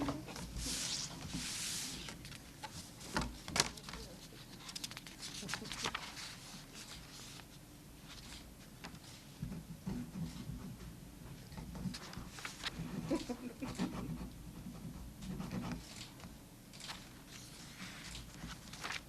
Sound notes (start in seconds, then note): 6.8 laughter